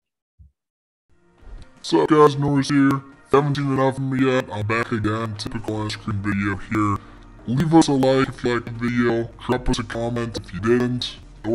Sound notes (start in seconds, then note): 1.2 soothing music; 2.0 speaking gibberish